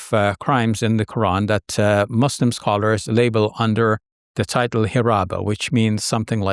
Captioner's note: speaking Arabic